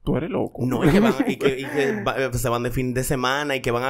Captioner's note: laughs